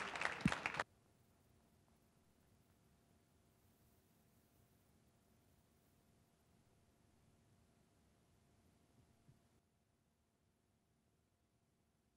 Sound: applause; silence

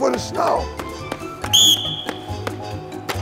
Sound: whistle blows

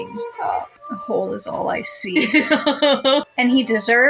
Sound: uneasy Laugh

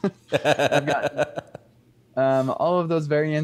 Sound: laughs

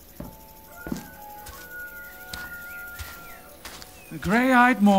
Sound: rooster crowing

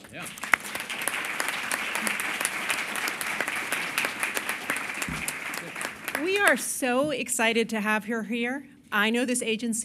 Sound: applause

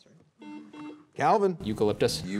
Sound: buzzer beeping

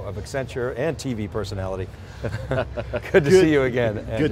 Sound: laughing

